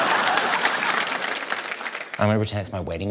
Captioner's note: laughter and applause